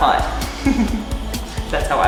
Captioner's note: laughing